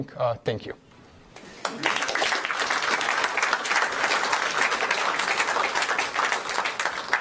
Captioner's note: applause